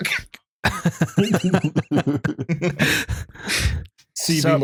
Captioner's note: laughter